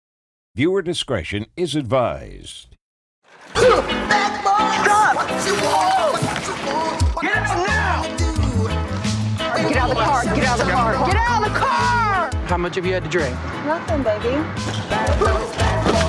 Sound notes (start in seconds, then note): 4.1 scream